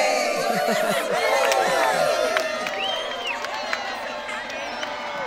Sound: crowd cheering

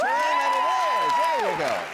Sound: cheering

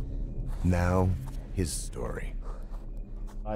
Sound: voiceover

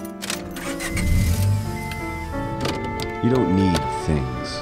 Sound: engine roars to life

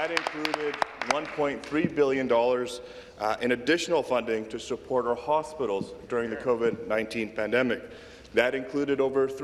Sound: some Applause

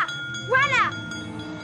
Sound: bell rings

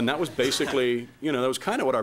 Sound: laughing

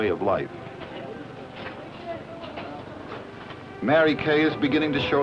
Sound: café ambiance

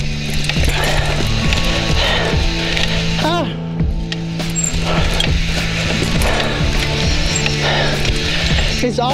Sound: cycle Rides Sound

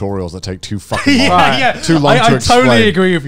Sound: all chuckling

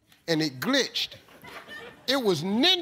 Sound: audience chuckles

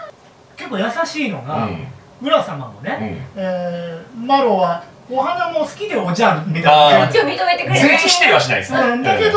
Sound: laughs

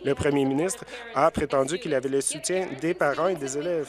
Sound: applause

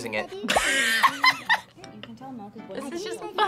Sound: laughs

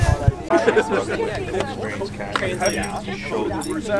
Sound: chatter

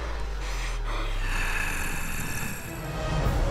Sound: growling

